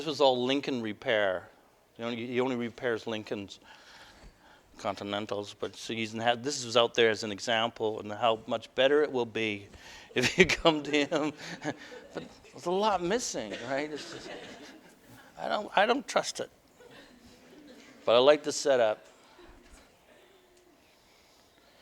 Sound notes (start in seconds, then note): 10.2 laughter; 13.0 audience: Laughter